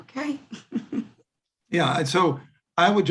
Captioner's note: chuckles